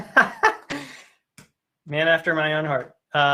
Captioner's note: laughs